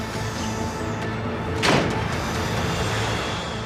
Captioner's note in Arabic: يغلق الباب